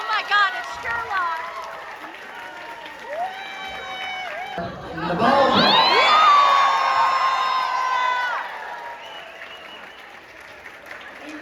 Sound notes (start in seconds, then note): 5.3 crowd cheers